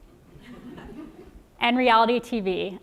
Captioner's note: laugh